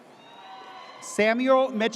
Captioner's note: audience cheers